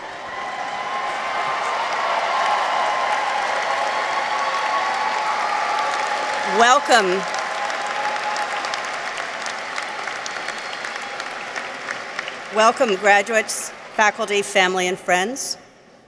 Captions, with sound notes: -(audience cheers) -(audience applauds) Welcome. Welcome, graduates, faculty, family, and friends.